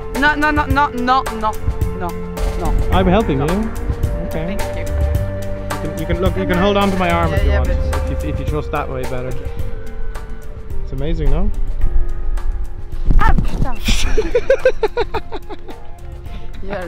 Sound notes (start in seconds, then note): 13.0 woman gasps; 14.0 laughing